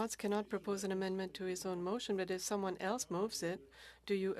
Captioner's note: speaking French